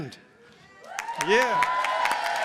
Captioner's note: applause and cheering